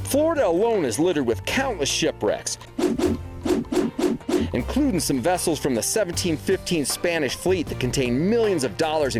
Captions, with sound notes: Florida a lone is littered with countless shipwrecks, (swooshing) includin' some vessels from the 1715 Spanish fleet that contained millions of dollars